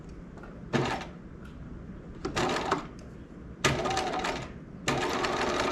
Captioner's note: sewing machine whirling